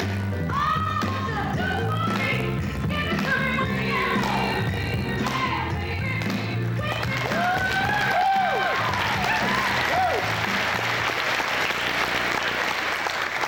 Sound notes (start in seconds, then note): 8.6 cheers, applause